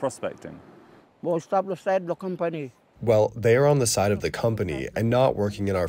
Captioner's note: through translator